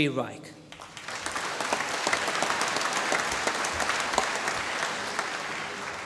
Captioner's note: applause